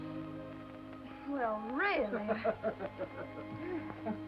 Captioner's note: laughter